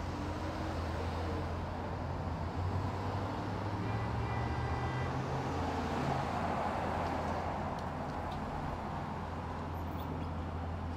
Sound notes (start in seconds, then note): 0.1 rushing traffic; 3.9 horn honking